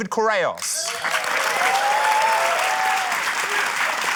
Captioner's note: cheering, applause